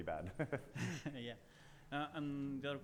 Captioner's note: laughing